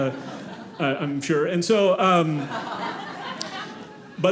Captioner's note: audience laughing